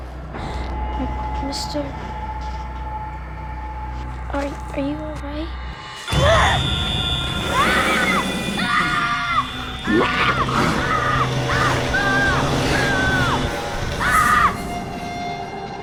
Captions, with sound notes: M-MISTER? ARE -- ARE YOU ALL RIGHT? [ GASPS ] [ SCREAMING ]